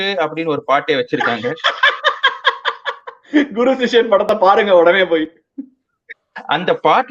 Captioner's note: laughs